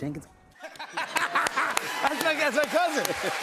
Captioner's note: laughter